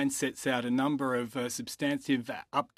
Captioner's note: speaking french